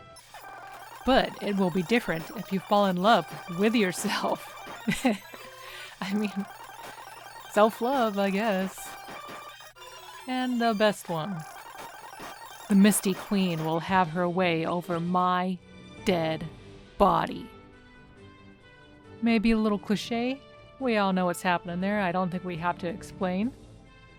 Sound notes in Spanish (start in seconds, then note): 4.8 risas